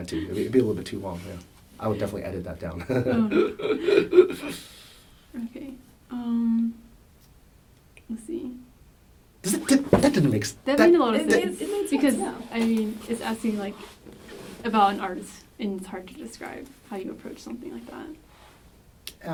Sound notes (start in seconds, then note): 2.9 laughs; 6.1 laughs